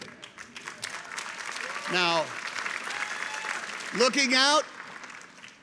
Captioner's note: people clapping